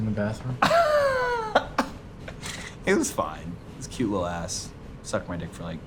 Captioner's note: laughs